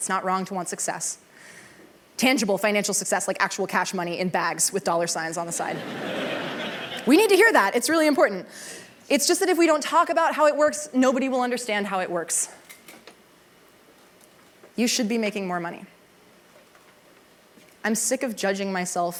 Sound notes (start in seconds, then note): 5.6 laughter